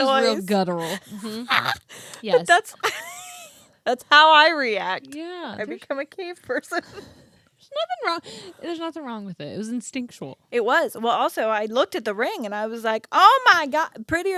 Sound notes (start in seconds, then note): 0.9 laughs; 7.2 laughs